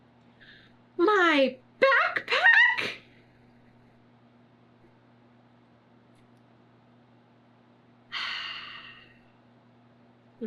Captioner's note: sighs